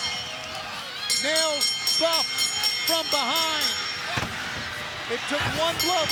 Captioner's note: bell ringing; kicks thudding